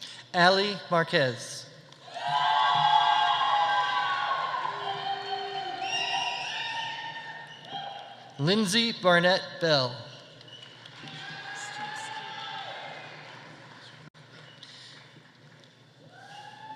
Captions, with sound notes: Ali Marquez. (audience applauding) (audience cheering) Lindsey Barnett Bell. (audience applauding) (audience cheering)